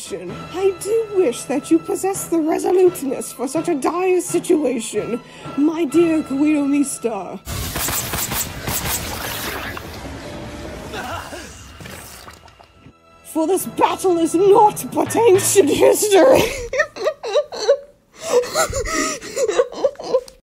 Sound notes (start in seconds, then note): 16.5 dies of laughter